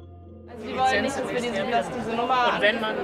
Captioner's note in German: Stimmengewirr